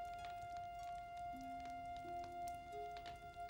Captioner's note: fire crackling